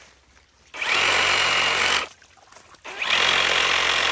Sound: skilsaw buzzing

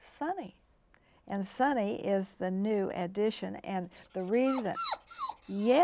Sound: Sunny whines

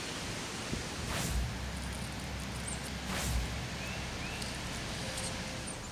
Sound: birds singing

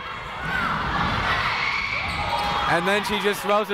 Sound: people shouting in the crowd

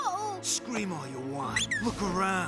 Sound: squirrel squeaks

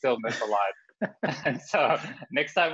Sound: chuckles

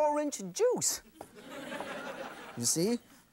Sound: audience laughs

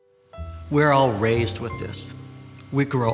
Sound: slow music; voiceover

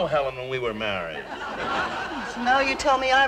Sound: audience laughing

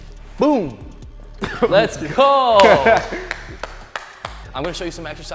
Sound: claps

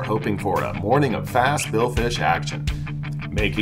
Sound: none

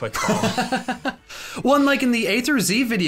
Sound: laughing

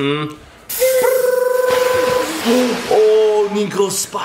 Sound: trills; water gun noise

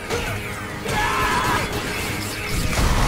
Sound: screaming

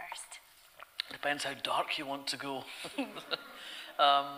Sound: audience laughter

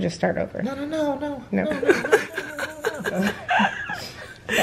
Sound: laughing

